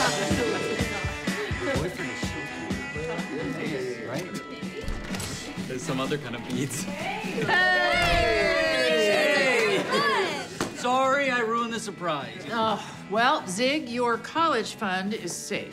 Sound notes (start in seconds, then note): 4.8 door opens; 7.9 door closes